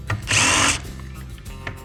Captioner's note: drill whirring